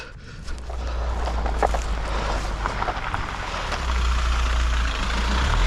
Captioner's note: van reverberating; exhaling